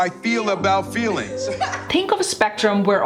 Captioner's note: girl laughing